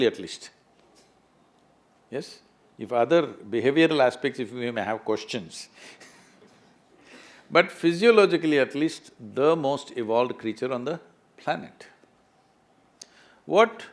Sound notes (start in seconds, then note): 6.3 laughs